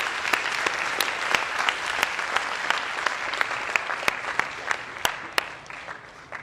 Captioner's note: applause